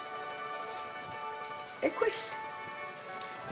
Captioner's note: speaking in italian